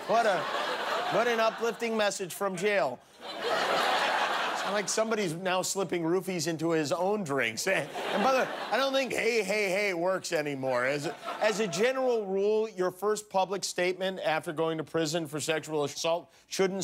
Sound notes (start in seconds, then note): 7.8 laughter